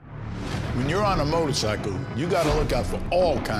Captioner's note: voiceover